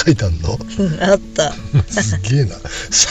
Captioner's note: laughs